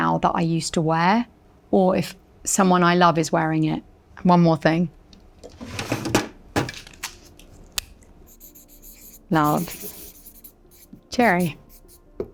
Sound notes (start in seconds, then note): 5.5 drawer clunking; 8.2 Sharpie scratching